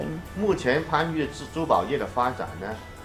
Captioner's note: speaking chinese